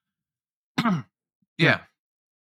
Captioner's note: clears Throat